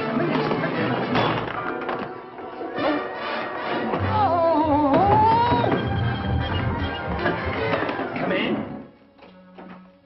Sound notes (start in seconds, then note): 3.6 yelping; 4.9 knocking